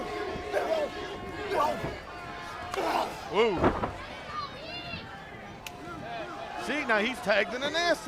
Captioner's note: crowd chatter